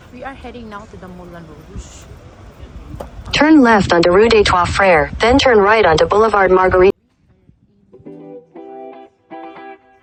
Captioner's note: waze speaking